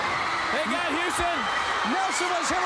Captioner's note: crowd cheering